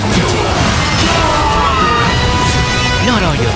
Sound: KO Scream

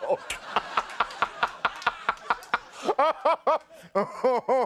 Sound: laughing awkwardly

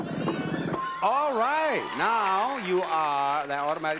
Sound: bell dings

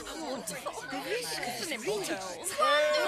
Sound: excited Chatter

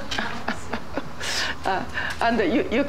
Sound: laughs

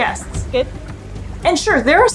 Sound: gentle water lapping noises

